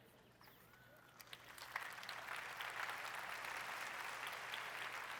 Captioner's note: applause